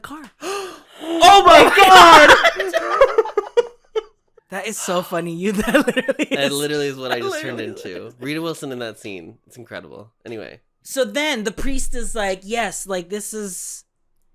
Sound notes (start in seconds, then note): 0.4 gasp; 2.2 laughter